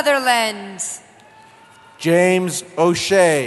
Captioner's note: cheering